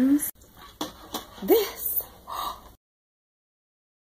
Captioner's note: gasp